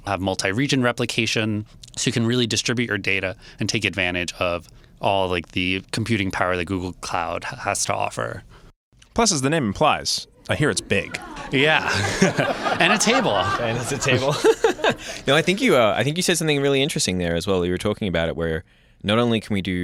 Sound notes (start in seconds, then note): 10.5 laughter; 14.6 laughs